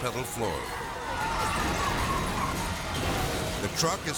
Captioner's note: car rumbling